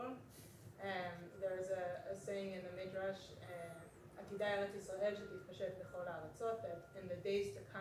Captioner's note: non-english speech